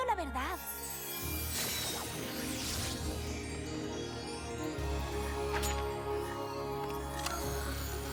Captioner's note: whoosh